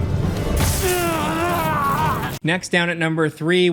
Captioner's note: dramatic music; Jedi Knight groaning